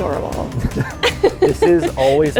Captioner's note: laughs